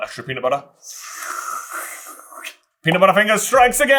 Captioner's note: aerosol can spraying sound